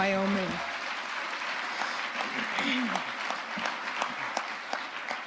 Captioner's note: audience applauding